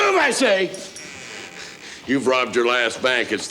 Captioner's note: door creaks